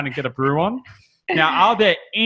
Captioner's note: laughs